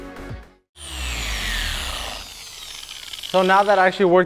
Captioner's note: orbital buffer turning off